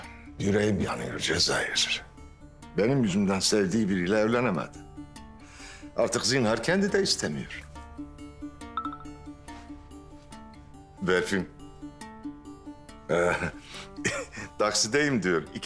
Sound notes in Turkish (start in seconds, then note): 8.7 Telefon mesaj sesi; 13.1 Gülüyor